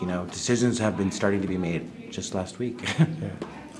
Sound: chuckling

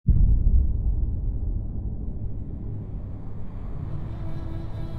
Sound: distant bombs rumbling; sorrowful music

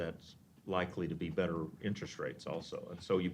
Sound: none

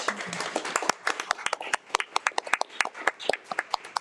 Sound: audience applauding

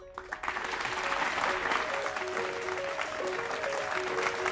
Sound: audience applauds; calm music

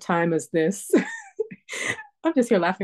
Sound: laughter

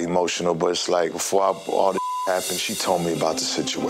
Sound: beep

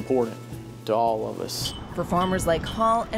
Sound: flagpole clinks

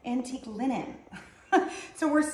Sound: woman chuckles

